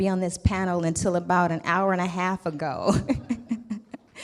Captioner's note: laughs